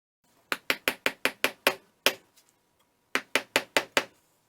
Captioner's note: mallet tapping